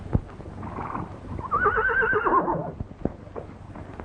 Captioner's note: horse neighing